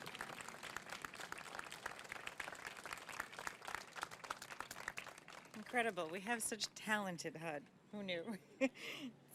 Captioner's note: applause